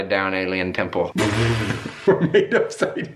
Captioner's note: laughing